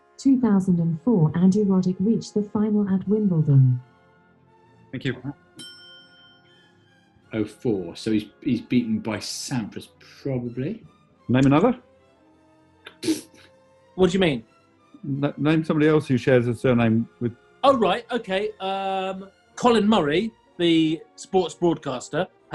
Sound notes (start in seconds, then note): 13.0 splutters